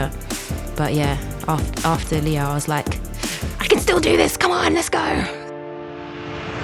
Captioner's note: grits teeth